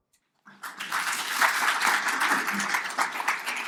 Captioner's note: applause